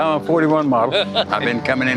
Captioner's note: laughing